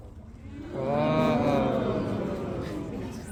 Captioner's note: crowd gasps